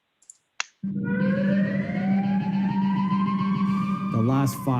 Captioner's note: siren wails